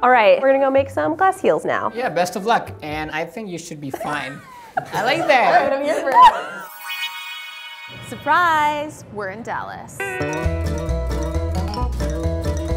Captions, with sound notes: - Alright, we're gonna go make some glass heels now. - Yeah, best of luck. And I think you should be fine. (laughs) I like that, it's different. (sparkly music) - Surprise, we're in Dallas. (upbeat music)